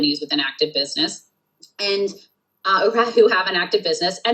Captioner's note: laughs